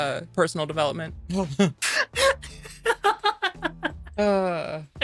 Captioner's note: laughing